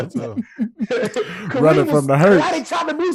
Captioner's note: Rel laughing